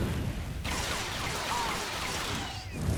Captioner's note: gun firing